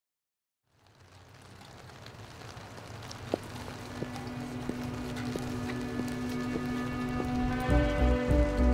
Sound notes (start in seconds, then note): 1.0 rain falling; 4.7 dark rhythmic music